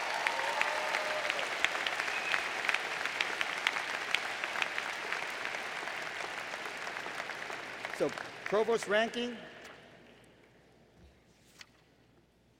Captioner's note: applause